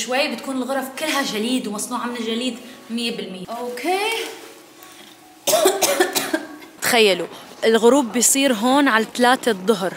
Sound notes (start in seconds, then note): 5.4 coughs